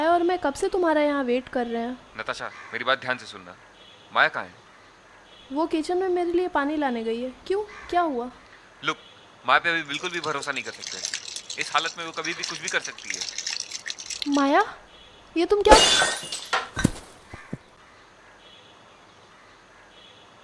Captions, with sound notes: Me and Maya are waiting here for you for so long. Natasha, listen to me carefully. Where's Maya? She has gone to kitchen to get me water. Why? What happened? Look, Maya cannot be trusted at all right now. In this state, she can do anything, anytime. Maya, what are you... (Dropping object)